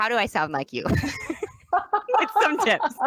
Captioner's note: laughs